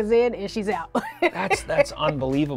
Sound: laughs

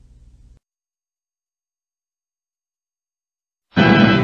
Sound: silence

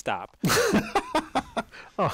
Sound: laugh

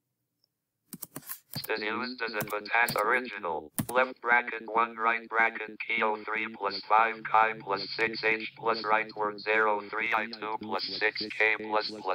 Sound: text-to-speech reader reads texts

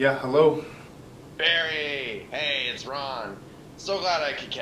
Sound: on phone

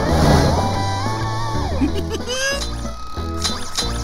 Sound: giggling

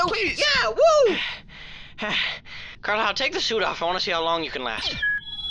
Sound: heavy breathing

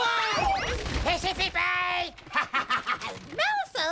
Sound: speaking gibberish

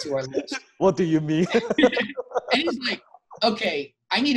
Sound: laughs

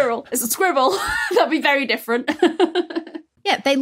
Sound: giggles

